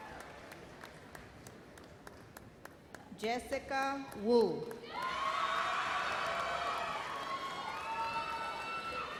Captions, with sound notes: Jessica Woo. (explosive cheers)